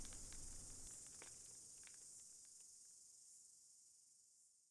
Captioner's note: fire crackling and night insect buzzing